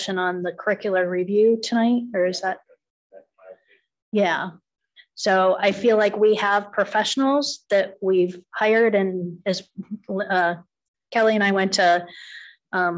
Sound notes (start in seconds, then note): 3.2 faintly speaking